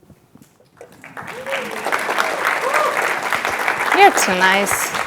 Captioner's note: cheers and applause